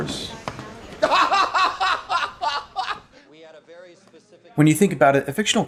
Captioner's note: laughing maniacally